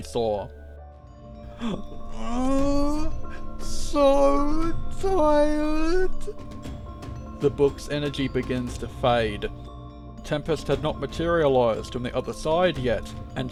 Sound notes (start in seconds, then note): 1.5 pained groan